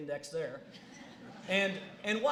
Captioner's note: laughing